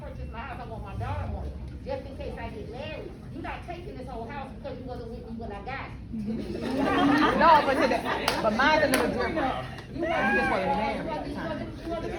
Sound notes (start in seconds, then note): 6.3 audience laughs